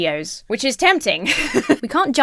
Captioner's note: laughs